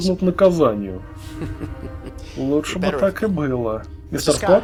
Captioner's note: chuckles